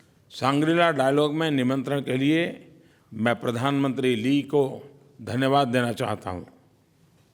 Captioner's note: PM Modi speaks in Hindi